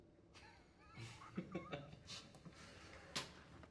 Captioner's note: chuckling